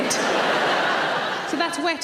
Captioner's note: audience laughing